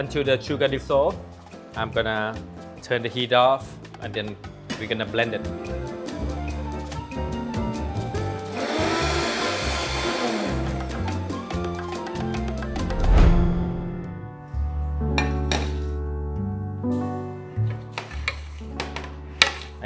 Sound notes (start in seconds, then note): 4.6 jazzy music; 8.4 blender whirring; 12.6 jazzy music; 14.0 calm music